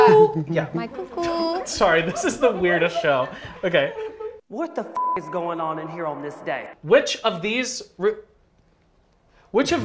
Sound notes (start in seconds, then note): 4.5 Voice Of Alyssa Edwards; 4.9 beep